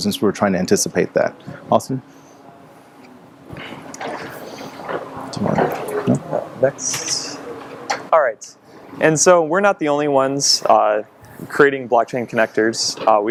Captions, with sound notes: since we were trying to anticipate that, Austin. (speaking off mic) (shuffling) - Next. Alright, and so we're not the only ones creating Blockchain connectors.